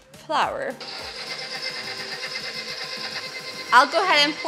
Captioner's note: shrilling noise